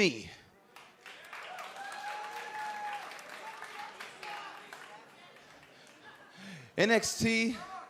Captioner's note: crowd cheering